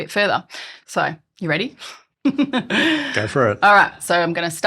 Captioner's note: laughs